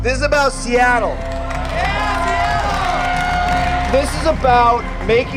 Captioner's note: cheering